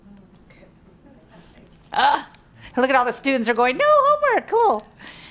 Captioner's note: laughs